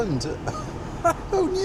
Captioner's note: laughs